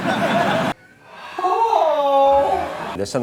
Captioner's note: moaning